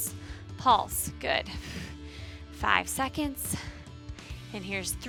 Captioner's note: exhales